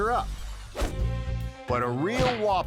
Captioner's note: upbeat music; dot whooshing